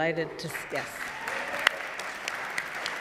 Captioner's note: audience laughing